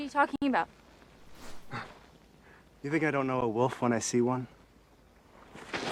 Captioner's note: scoffs